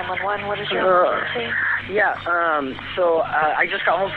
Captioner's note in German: englisch